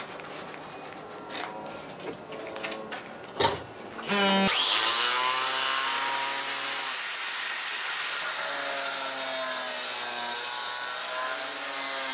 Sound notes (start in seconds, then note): 4.0 loud buzzing